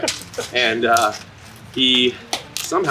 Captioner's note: laughing